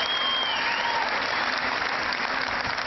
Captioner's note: cheering